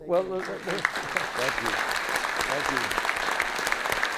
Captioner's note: audience applauds